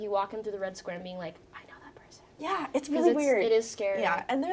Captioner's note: whispering